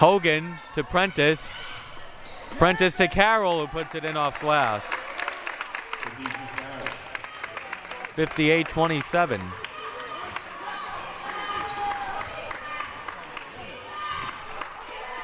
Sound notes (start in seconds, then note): 5.0 audience applauding; 11.2 clapping